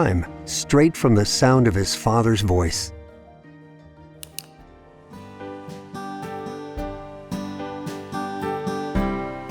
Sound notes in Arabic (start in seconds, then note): 4.2 نقرة ماوس; 4.8 عزف موسيقى هادئة